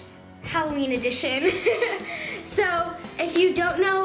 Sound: laughs

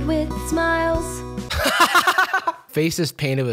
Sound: laughing

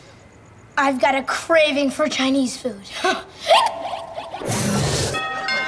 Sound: hiccups; doorbell rings

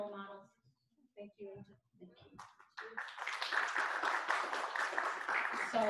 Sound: clapping

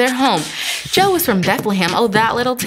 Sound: new faster beatboxing

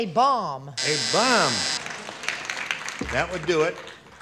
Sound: buzzer

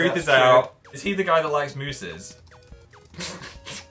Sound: adorable laugh <3

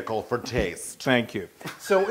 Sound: laugh

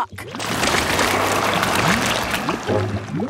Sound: whirring

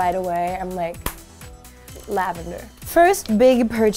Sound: claps

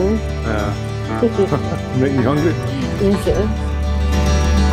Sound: laughter

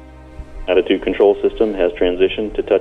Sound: voice on radio

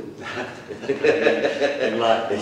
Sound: laughter

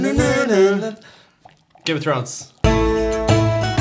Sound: Imitating Game of Thrones intro music

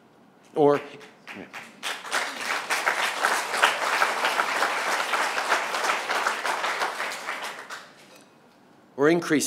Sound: applause

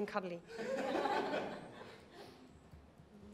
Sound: laughter

